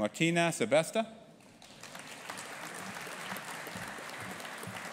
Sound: audience applauding

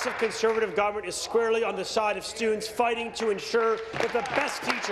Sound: applause

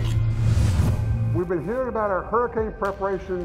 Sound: voiceover

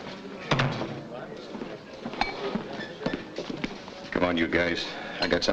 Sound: door thuds shut

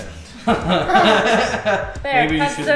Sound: laughing

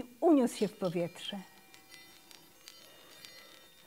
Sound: bells ringing

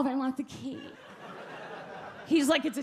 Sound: audience laugh

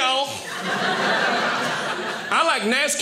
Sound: audience laughing

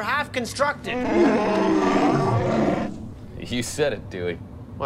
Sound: wookie roar

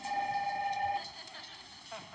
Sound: phone rings

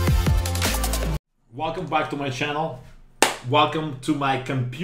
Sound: clap

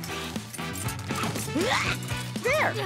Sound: grunting

